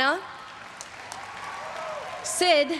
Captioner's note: everyone cheering and applauding